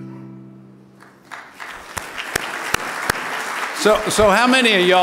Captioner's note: audience applauding